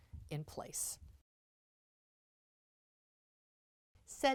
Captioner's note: no Sound Present